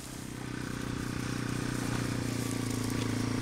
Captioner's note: motorcycle rumbling